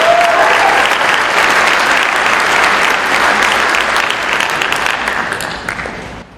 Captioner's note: crowd applauds